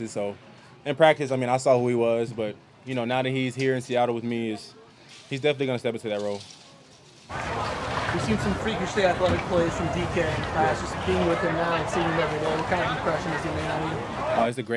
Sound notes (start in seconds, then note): 11.6 crowd noise